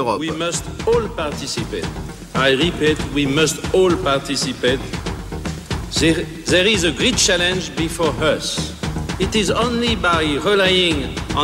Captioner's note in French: anglais avec un fort accent français